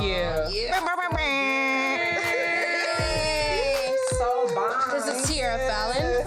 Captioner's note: all imitate blowing horns